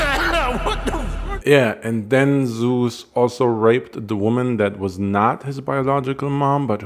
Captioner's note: cough